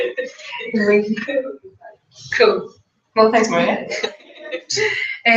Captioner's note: laugh